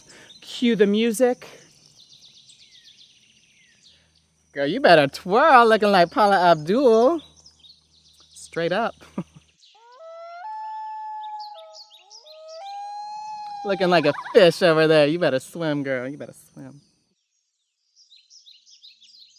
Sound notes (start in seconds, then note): 9.0 chuckles; 9.8 loon warbling